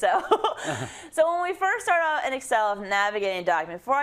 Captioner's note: laugh